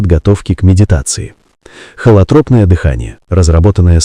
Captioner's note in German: Natürliche Atmung